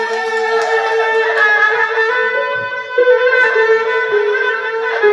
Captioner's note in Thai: ปรบมือ